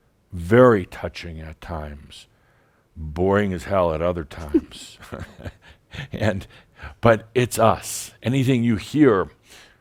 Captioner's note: they chuckle